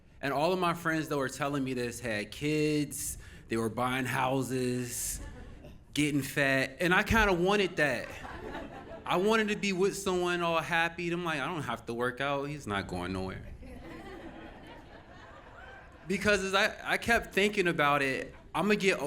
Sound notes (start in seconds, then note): 15.8 audience Laughing